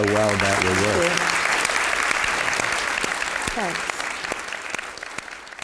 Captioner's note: applause